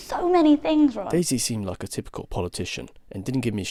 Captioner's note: voiceover